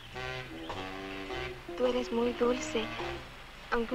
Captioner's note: soft instrumental music; Mango speaking in Spanish